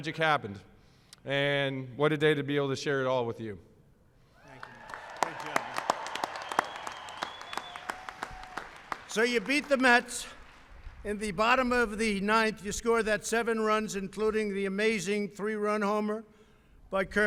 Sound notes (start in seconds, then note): 4.4 applause